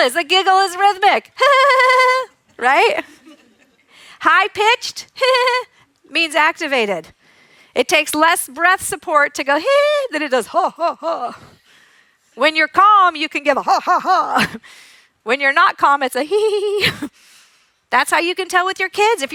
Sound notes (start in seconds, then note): 2.9 imitates giggle